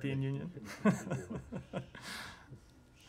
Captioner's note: laughter